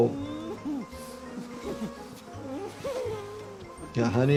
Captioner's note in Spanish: Lloriqueo de nuez